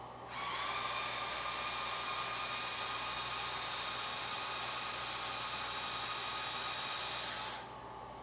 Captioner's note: electric whine of motors tilting propellors